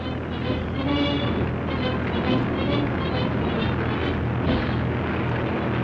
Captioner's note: military music; airplane rotor hums